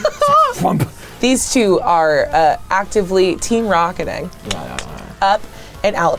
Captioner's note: clicks tongue